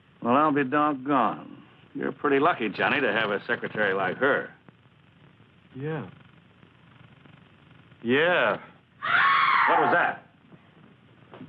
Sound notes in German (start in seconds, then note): 9.0 schrei